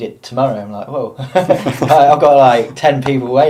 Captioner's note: laughing